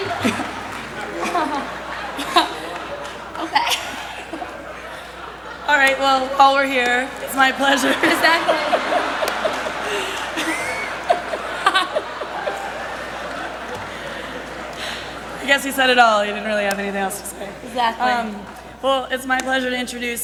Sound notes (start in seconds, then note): 0.2 laughter; 9.1 laughter